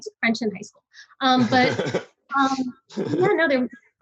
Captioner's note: laughs